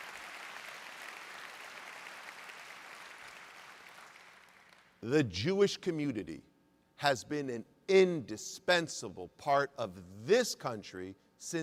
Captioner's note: applause